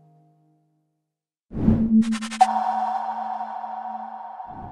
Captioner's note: logo whooshing